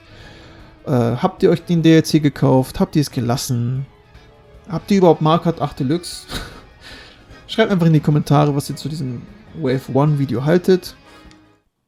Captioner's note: laughs